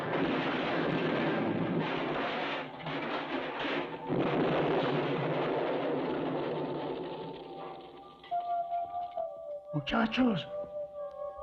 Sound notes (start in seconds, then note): 0.0 crashing, Explosions